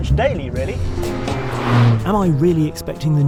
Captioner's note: car roaring